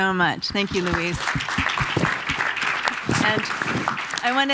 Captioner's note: audience applauding